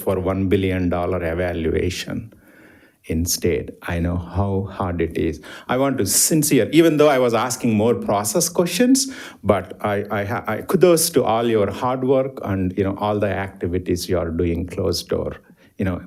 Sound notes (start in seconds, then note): none